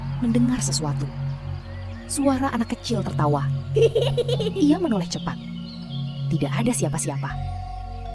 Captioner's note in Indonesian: tertawa